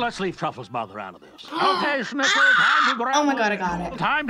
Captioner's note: gasps